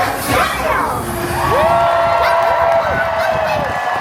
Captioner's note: crowd cheers